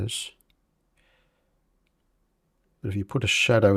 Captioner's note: silence